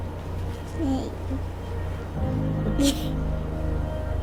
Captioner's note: laughs